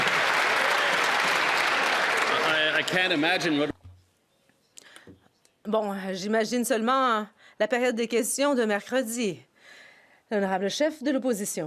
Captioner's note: some Applause